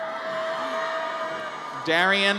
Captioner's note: audience cheers